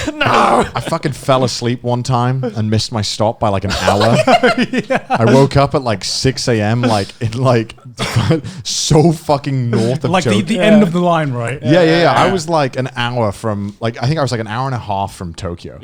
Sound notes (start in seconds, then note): 3.6 laughing